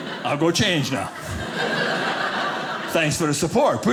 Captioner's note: audience laughing